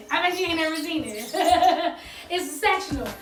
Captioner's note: laughs